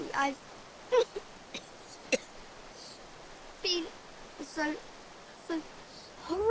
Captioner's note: coughing